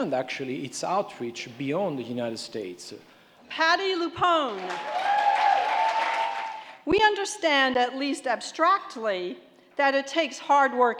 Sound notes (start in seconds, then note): 4.4 applauding